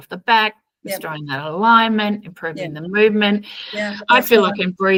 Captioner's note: agreeing in the background